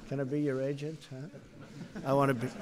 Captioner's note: laughter